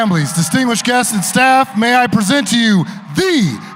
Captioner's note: cheers and applause